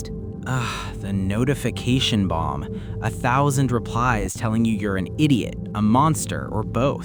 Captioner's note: sighs